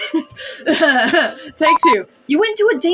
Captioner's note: chuckle; clears Throat